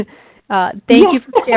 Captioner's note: chuckles